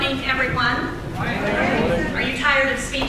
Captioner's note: crowd